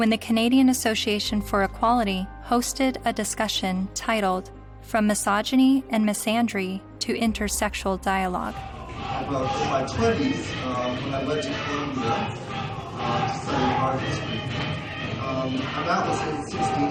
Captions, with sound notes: WHEN THE CANADIAN ASSOCIATION FOR EQUALITY HOSTED A DISCUSSION TITLED "FROM MISOGYNY AND MISANDRY TO INTERSEXUAL DIALOGUE." [CROWD CHANTING AND CLAPPING]